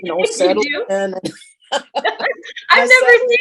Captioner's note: all laughing